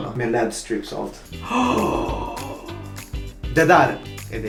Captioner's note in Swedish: Flämtar